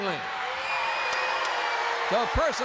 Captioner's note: crowd boos